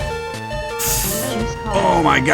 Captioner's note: sharp inhale